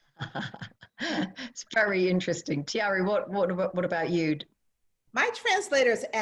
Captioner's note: laughter